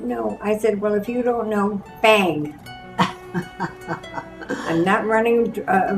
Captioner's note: laughs